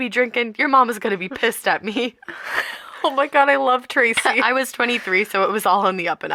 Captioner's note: laughter